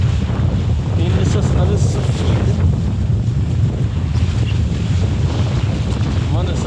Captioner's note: wind